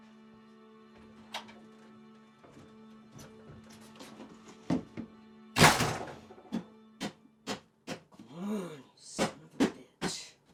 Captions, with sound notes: (door closes) (tapping canister) - Come on, you son of a bitch.